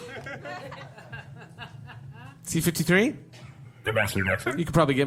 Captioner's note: audience laughter